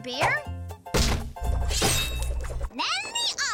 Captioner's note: thuds, slicing sounds